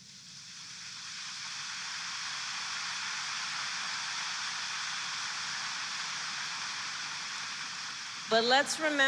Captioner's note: applause